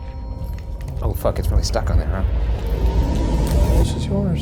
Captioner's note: beep